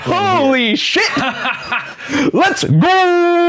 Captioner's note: laughing